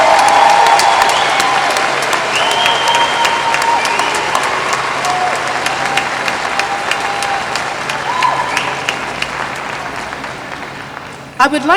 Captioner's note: applause